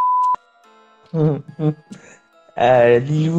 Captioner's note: laughs